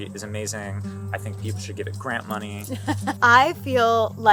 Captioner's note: laughs